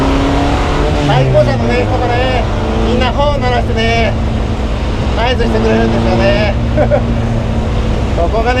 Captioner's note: laughs